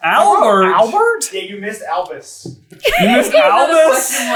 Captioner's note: team laughter